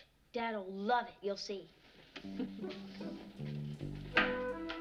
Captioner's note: laughs